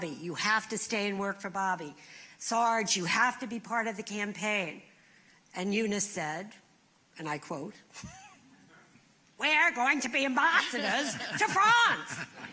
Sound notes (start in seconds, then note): 7.6 imitating eunice shriver